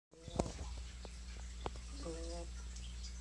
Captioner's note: quiet snore